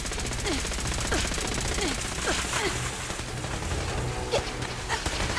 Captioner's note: gunshots firing; player grunting